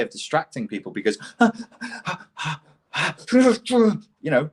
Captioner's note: hooting